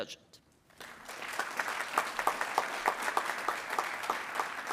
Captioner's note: attendees applauding